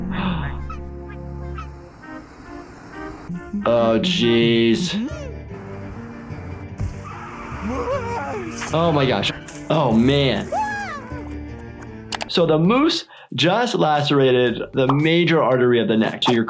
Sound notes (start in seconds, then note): 0.1 gasping; 0.6 ducks quacking; 2.0 happy music; 4.8 Lumpy gasping; 6.1 engine whirring; 6.8 tires screeching; 6.9 Lumpy screaming; 7.8 razor slicing; 10.4 Lumpy screaming; 10.6 blood squirting